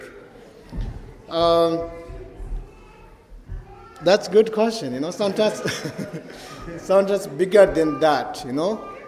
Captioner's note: laughs